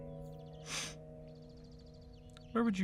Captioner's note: sniff